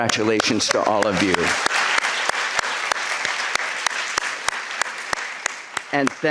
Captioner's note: applause